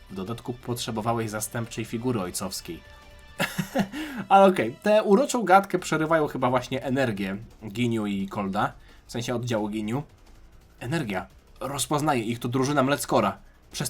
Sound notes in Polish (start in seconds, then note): 3.4 śmiech